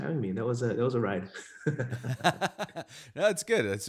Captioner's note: laughing